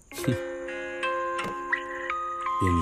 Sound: phone ringing

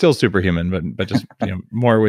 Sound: laughs

